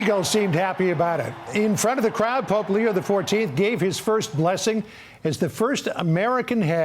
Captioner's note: cheering and applause